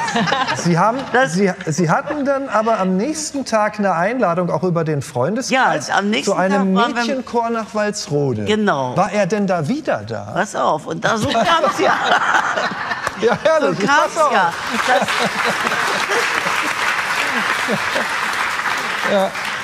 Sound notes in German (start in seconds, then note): 11.2 Gelächter; 14.0 Applaus